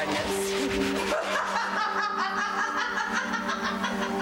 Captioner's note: cook laughing